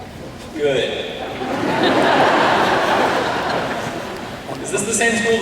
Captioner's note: laughter